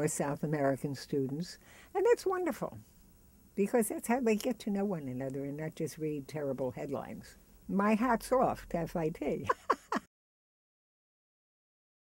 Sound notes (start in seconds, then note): 9.4 laughs